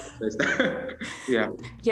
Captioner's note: laughing